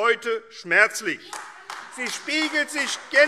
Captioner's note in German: Beifall AfD